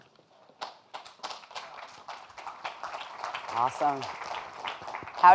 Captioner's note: audience applauding